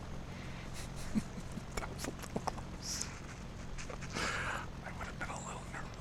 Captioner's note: me, very quietly, laughing